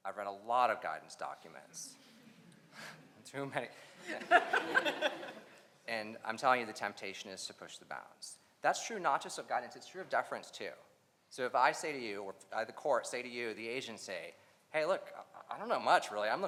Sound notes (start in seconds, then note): 2.2 audience laughs; 4.0 laughs